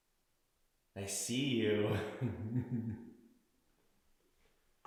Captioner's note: laughs